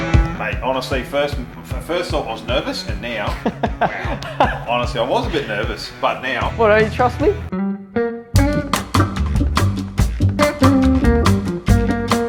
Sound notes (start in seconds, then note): 3.2 he laughs; 7.9 chill music